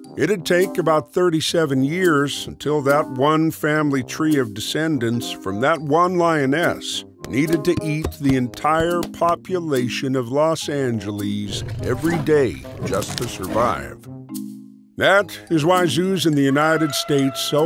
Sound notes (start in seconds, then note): 11.4 roaring; 16.5 elephant trumpeting